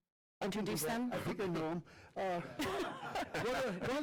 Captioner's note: laughter